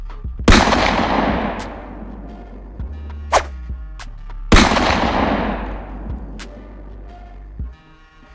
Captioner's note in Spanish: Sonidos de pistolas